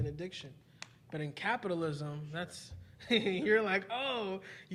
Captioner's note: chuckling